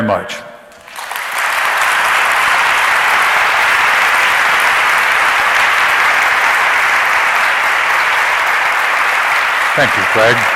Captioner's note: audience applauds